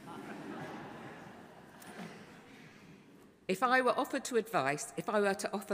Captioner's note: audience laughing